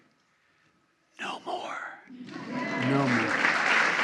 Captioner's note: applause